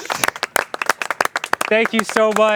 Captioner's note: applause